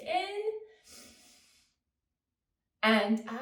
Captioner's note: inhales